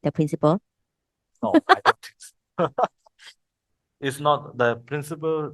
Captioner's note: laughters